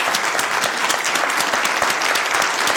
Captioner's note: applause